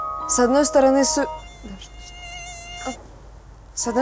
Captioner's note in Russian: писк комара